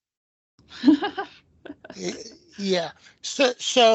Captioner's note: laughs